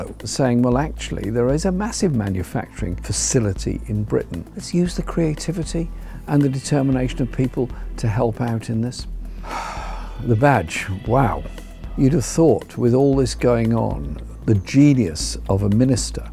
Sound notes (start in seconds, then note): 9.4 sigh